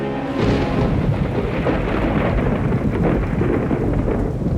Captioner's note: thunder crashes